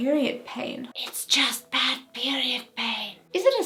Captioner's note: whispering